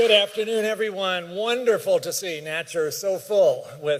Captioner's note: applause